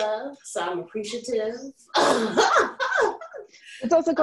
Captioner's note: laughs